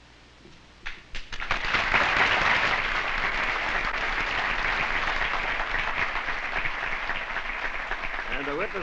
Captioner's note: applause